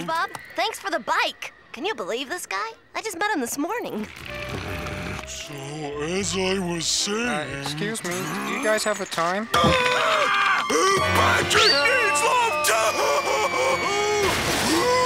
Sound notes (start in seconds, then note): 3.9 growling; 9.5 screaming